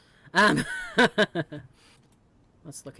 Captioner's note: laughs